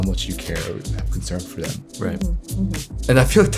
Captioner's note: faintly speaking